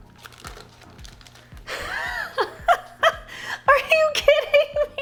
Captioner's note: paper rustling sound; laughing